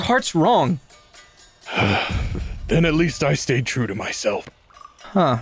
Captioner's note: sighs